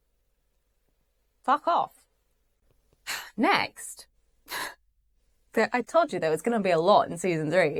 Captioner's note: sighs